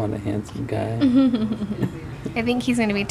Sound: laughter

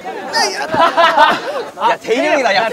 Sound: laughing

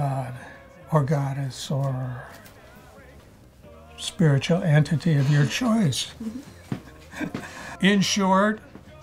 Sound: chuckles

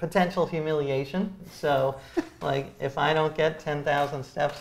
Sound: laughs

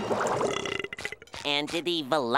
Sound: burping

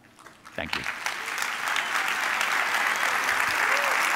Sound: audience applauding

